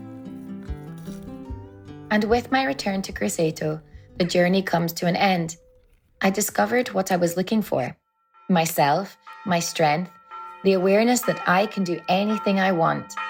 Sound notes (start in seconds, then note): 8.2 church bells ringing